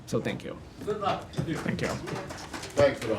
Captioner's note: applause